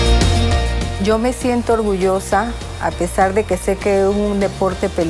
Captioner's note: speaking Spanish